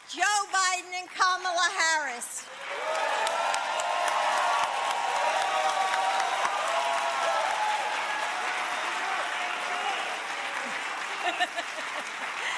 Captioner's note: applause